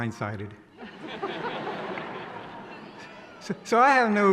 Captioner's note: laughing